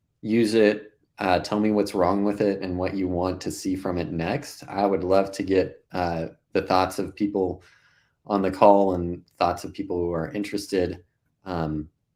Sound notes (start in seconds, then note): none